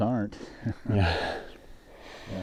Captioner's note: laughing